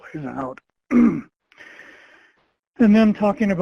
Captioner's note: clearing throat